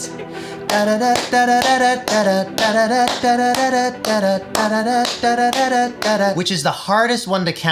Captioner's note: clapping and vocalizing the beat